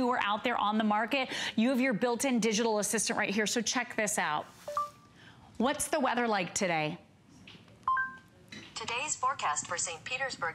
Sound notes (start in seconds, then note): 9.9 electronic voice